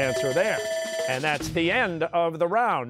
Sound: bell ringing

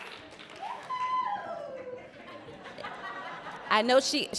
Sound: audience cheering

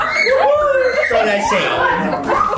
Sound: family chatters excitedly; group laughs

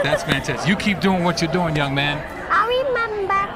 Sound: cheers and applause

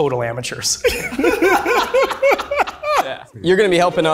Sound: group laughing

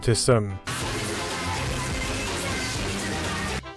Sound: severely distorted audio

